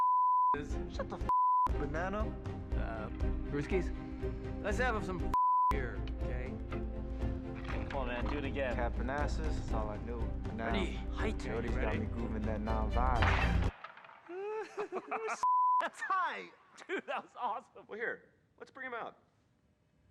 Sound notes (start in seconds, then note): 13.2 gunshot; 14.3 giggles